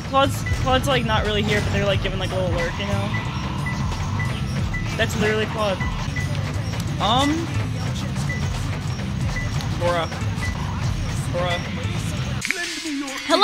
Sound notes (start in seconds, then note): 3.6 radar pings; 6.1 radar pings slower; 7.8 radar pinging slowly